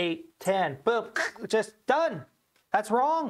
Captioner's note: scoffs